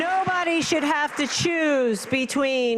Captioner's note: applause